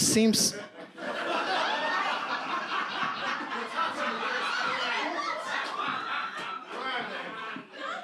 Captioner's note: audience laughs; audience voices